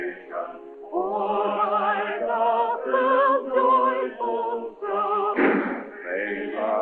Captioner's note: gunshots